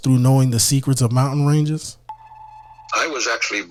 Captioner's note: beeping